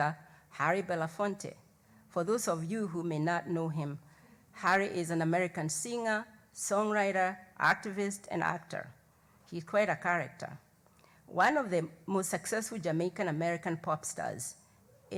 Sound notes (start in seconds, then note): none